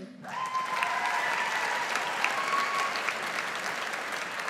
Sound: audience applauds

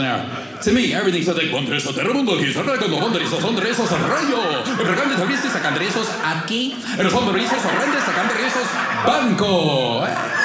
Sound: speaking Spanish

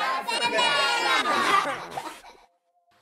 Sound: kids laughing

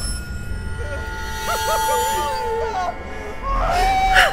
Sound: people crying out

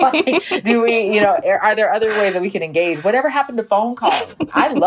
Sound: laughs

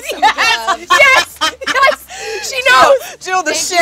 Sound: laughs

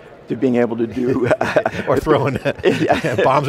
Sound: chuckles

